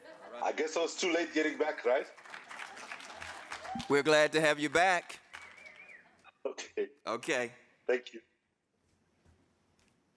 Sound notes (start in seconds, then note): 1.4 audience applauding